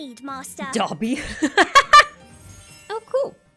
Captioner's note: laughs